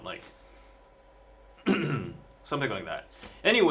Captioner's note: clears throat